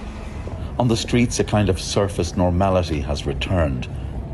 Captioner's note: horn honking